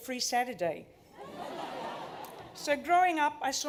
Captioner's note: laughter